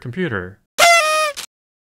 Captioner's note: party horn